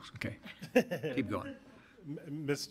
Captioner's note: audience laughs